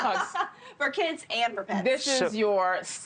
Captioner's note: laugh